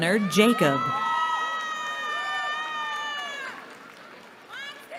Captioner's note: cheering